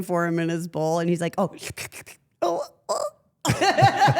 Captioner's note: slurps